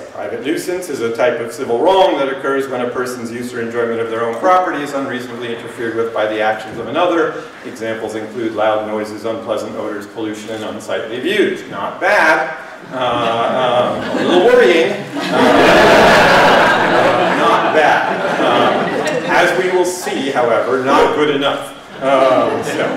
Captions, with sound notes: private nuisance is a type of civil wrong that occurs when a person's use or enjoyment of their own properties unreasonably interfered with by the actions of another. Examples include loud noises, unpleasant odors, pollution, and on-site reviews. Not bad. [LAUGHTER] don't worry. [LAUGHTER] As we will see. However, not good enough.